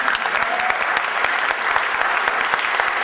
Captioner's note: audience applause and cheers